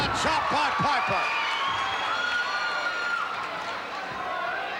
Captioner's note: audience shouting